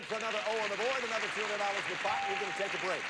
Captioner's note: audience applauding